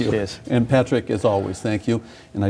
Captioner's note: laughing